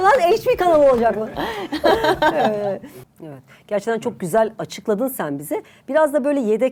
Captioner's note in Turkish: kahkaha